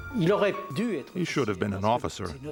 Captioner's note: speaks in foreign language